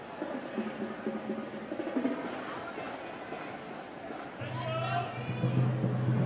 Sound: crowd chatting; upbeat music

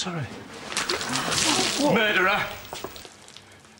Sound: people gasp

